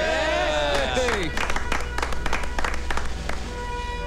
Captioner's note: Clapping